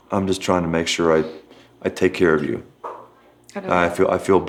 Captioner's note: none